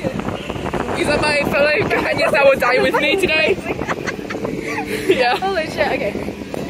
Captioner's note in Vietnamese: cười